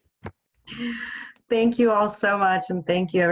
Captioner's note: laughing